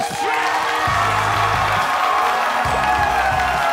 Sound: cheers and applause

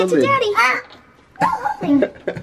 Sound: grunts

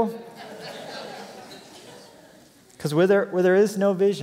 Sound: laughter

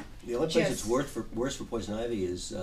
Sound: voiceover

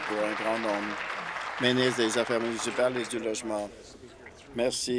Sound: applause

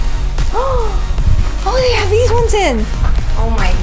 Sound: gasps

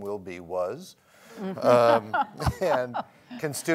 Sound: laughs

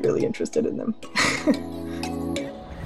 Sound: laughs; upbeat music

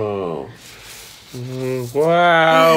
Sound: paper rustling; giggling

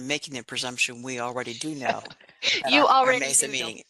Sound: laughing

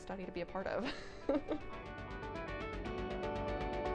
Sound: laughing; uplifting music

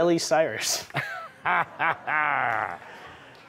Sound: laughter

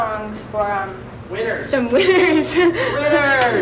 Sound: laughs

